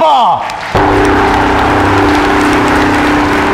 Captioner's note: All clapping